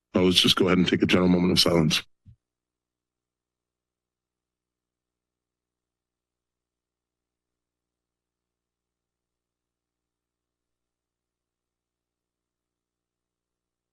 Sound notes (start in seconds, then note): 2.3 silence